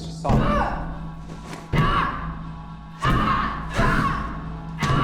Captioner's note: yelling